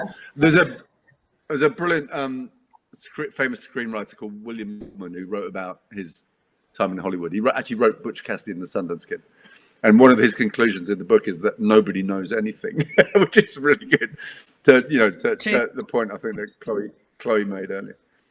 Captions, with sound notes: - There's a brilliant script famous screenwriter called William Goldman who wrote about his time in Hollywood. He actually wrote "Butch Cassidy and the Sundance Kid." And one of his conclusions in the book is that nobody knows anything, (laughs) which is really good to the point, I think that Chloe made earlier.